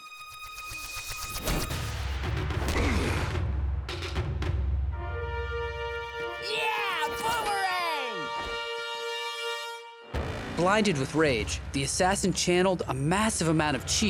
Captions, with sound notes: [groaning] Yeah, Boomerang! Blinded with rage, the assassin channeled a massive amount of chi